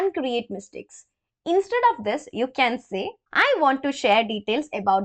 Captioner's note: explaining in hindi